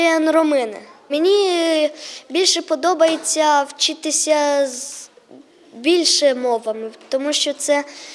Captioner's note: Ukrainian